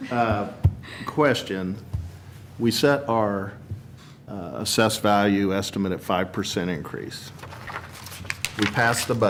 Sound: laughter

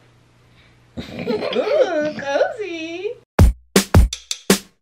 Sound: giggling; upbeat music

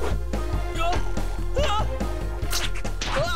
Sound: panicked shouts

